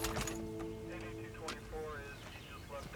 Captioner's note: garbled radio transmission